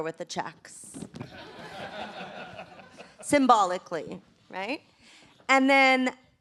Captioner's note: laughter